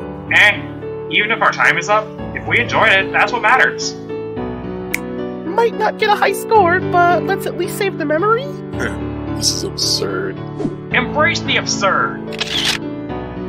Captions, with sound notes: Eh, even if our time’s up, if we enjoyed it, that’s what matters. [finger snap] Might not get a high score, but let’s at least save the memory? Heh. This is absurd. Embrace the absurd! [camera shutter]